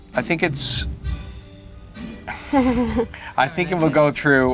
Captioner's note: laughs